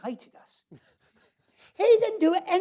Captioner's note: laughs